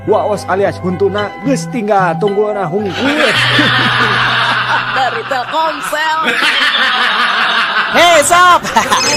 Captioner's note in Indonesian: tertawa